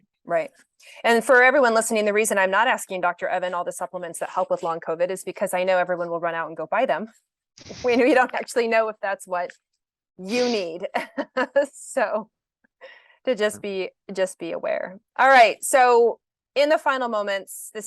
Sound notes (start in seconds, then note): 7.7 chuckles; 13.1 laughs